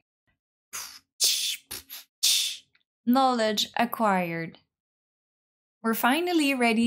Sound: beatboxing

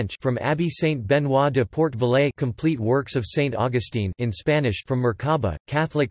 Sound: in Spanish

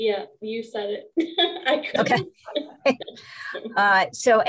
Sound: laughter

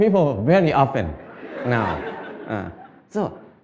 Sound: Smijeh

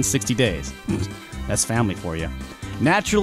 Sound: snickers

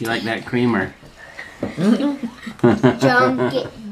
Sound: laughing

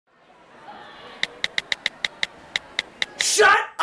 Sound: cell phone texting noises

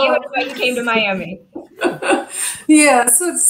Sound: laughter

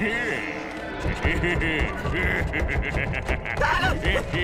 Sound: laughing

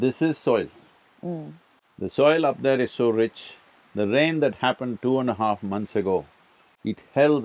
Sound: none

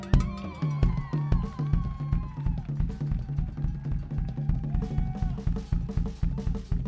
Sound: crowd cheering; drums beating; drum solo begins

